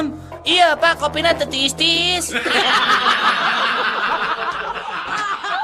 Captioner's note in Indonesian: tertawa